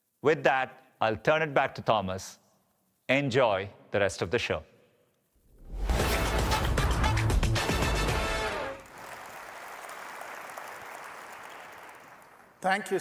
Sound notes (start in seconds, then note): 6.5 applause